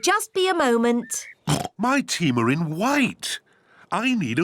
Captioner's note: oinks